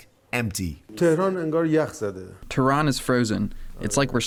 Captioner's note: through translator